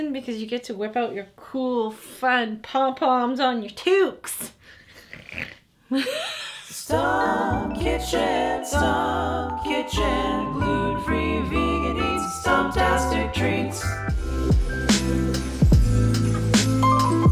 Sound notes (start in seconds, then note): 5.2 growls; 5.8 laughs